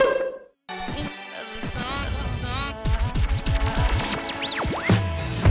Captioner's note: record scratching